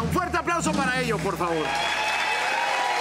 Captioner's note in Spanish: Aplausos; Gritos